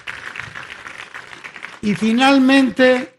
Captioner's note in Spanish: aplausos